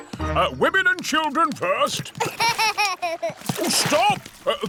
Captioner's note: laughs